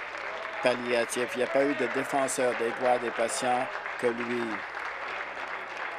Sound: applause

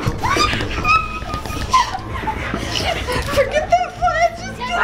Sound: crying out

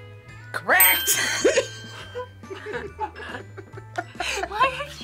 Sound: both laugh

